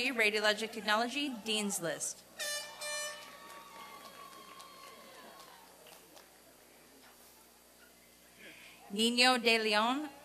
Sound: applause and cheering

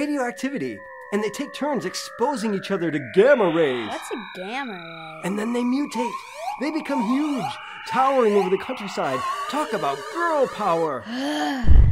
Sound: groans

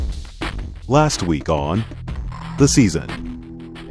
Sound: voiceover

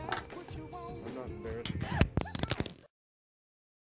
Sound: gasp

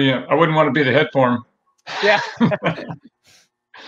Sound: laughs

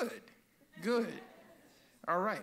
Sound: audience laughs

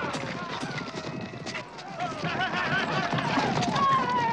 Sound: men yelling

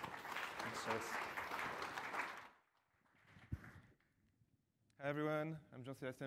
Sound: ap plause

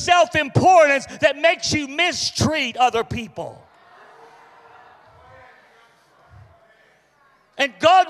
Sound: congregation reacts

